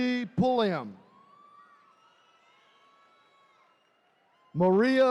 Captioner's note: attendees cheering